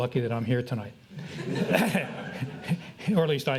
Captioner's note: audience laughs